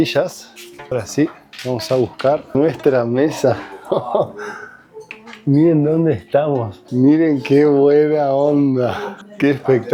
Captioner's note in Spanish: risas